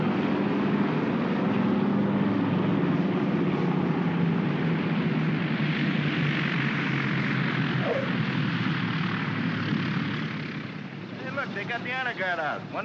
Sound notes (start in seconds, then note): 0.0 aircraft rumbles; 7.8 wheels chirp; 8.6 aircraft rumbles